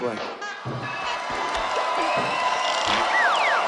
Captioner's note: cheering